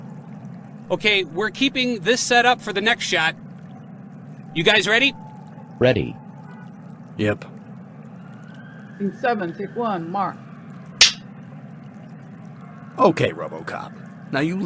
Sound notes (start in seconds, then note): 11.0 clapper sound